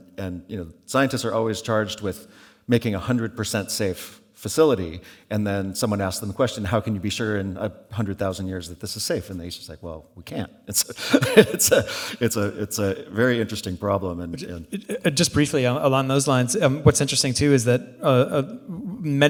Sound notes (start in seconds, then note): 10.9 laughs